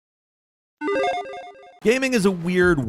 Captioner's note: logo beeps